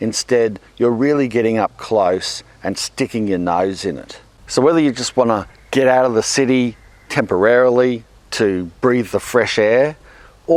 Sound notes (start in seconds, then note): none